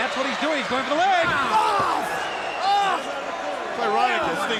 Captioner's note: Sting exclaiming